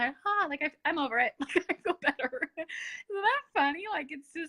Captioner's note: laughs